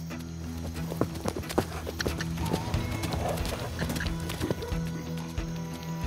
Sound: suspense music; hoofbeats; suspense music

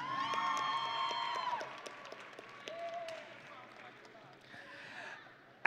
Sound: audience and graduates cheering

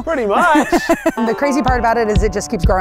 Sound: laughing

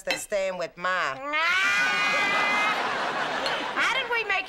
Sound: both cackle

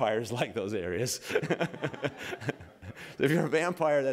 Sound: laughter

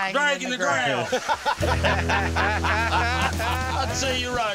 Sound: laughter

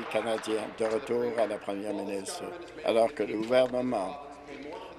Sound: applause

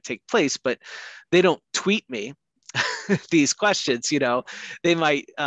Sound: laughs

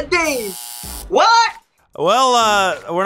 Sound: buzzer

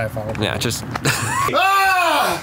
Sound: screams

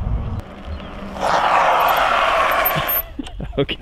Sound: screeching power slide

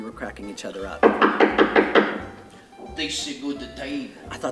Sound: knocking

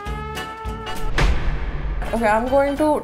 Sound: loud thud

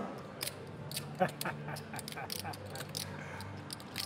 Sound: laughing

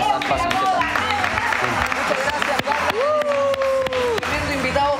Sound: applause

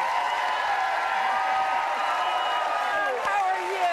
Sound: applause

